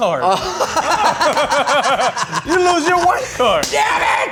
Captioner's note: laughing